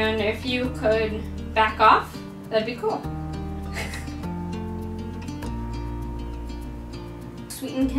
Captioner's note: chuckle